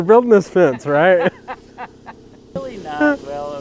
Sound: laughing

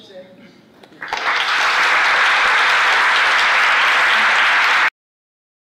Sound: applause

